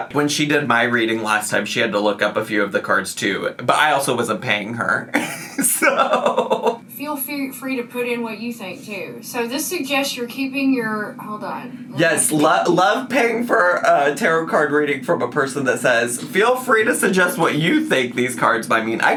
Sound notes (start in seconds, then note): 5.0 laughs